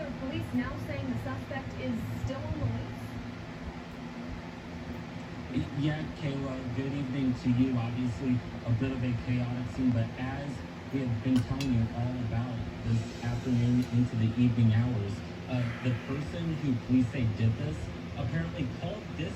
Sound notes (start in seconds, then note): 6.1 on TV